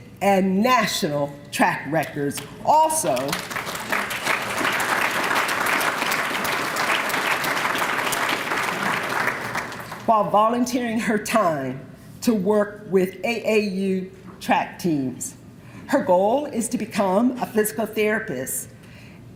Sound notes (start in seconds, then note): 3.0 applause